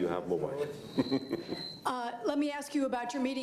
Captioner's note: laughs